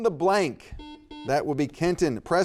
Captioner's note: buzzer beeping